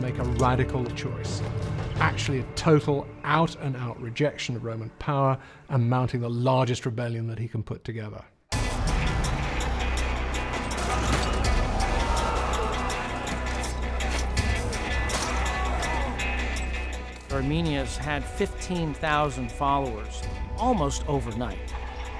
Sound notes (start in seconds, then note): 10.4 shouting